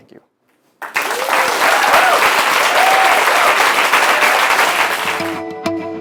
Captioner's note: applause